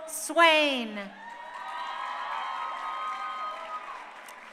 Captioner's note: crowd cheering